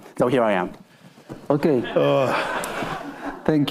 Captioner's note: attendees laughing; laughs